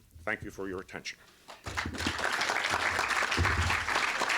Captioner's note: applause